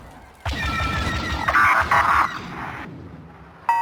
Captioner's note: beeps